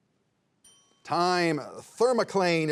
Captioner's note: bell dinging